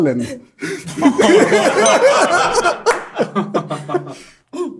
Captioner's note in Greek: γέλια